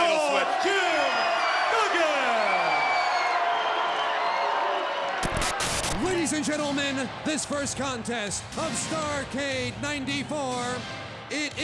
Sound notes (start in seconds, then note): 3.5 crowd cheers